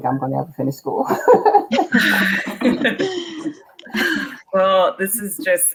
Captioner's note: all laughing